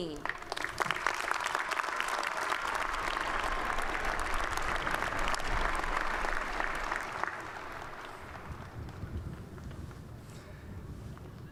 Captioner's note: applause